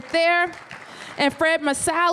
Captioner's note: applause